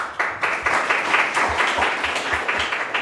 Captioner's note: applause